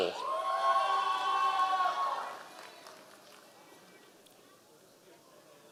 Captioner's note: members of the audience cheering